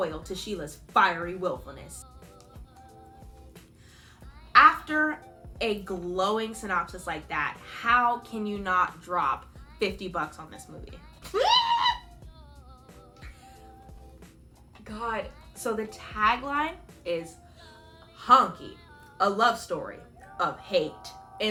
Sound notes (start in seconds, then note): 11.3 muffled scream